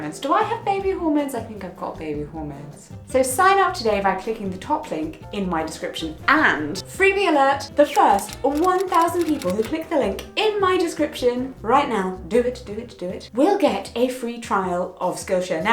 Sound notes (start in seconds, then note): 7.9 computer typing